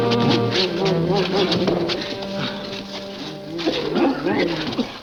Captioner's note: Devil grumbling; The Phantom coughing